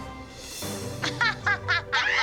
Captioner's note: laughing; screaming and laughing